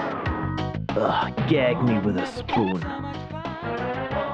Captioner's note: ugh